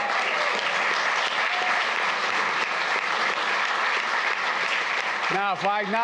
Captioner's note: applause